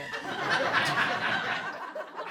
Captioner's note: laughter